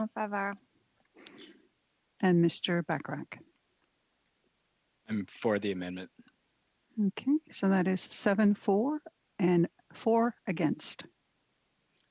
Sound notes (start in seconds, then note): 4.8 speaking French